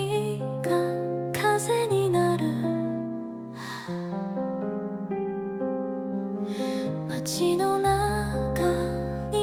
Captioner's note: sigh